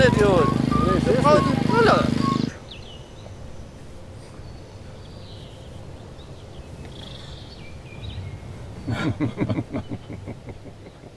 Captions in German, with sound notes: Ich seh's nicht. - Brauchst du 'ne Brille? (Vogelzwitschern)